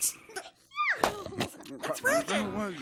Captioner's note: pop